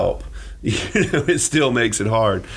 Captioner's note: laughing